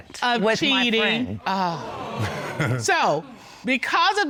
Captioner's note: audience exclaiming